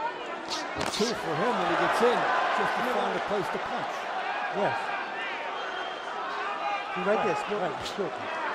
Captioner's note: cheers